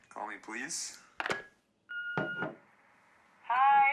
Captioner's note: machine beeping